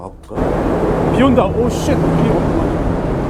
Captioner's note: rain and wind are raging